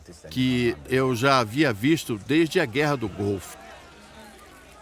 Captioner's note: loud chatter